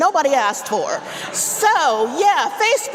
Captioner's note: audience laughing